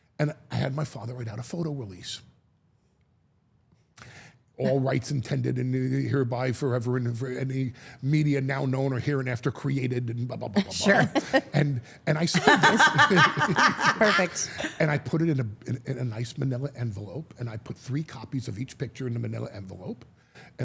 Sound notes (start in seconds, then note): 12.3 all laughing